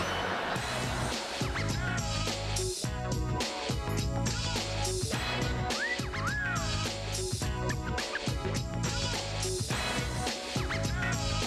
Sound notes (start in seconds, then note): 5.6 wolf whistle